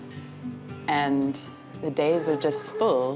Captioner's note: laughs